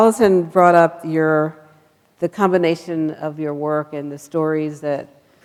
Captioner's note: none